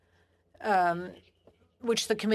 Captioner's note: speaking French